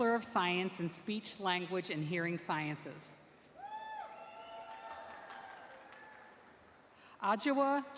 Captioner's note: cheering